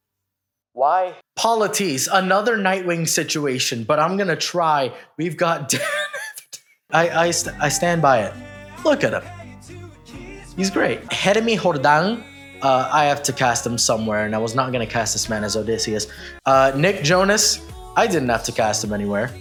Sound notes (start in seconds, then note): 11.1 with Spanish pronunciation